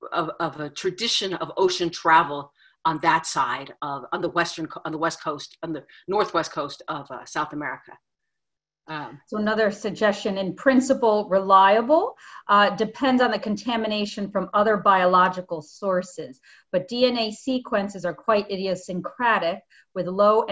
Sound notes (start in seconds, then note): none